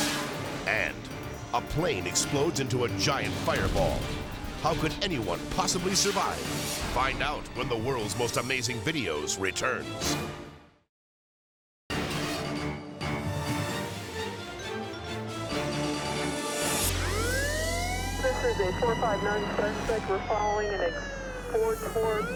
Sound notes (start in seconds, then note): 11.5 dramatic music; 16.7 siren blares